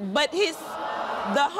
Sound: audience gasps

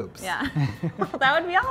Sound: both laugh

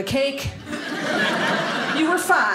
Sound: audience laughing

